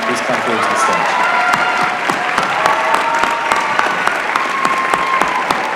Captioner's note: applause